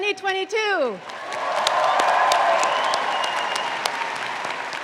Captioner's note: audience claps